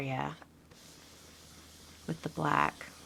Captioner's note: brush scrubbing